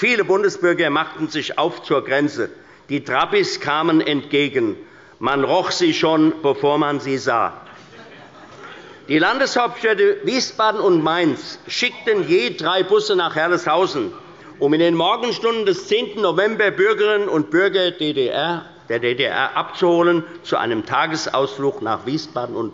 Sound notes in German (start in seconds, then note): 7.6 Allgemeine Heiterkeit